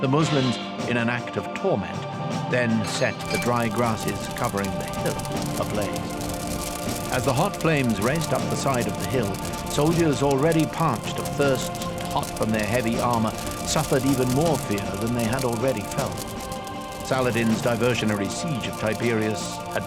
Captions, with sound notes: The Muslims, in an act of torment, then set the dry grasses covering the hill ablaze. (fire crackling) (suspenseful music) As the hot flames raced up the side of the hill, soldiers already parched of thirst and hot from their heavy armor suffered even more fear than they had already felt. Saladin's diversionary siege of Tiberias